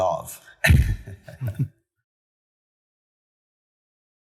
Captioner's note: laughs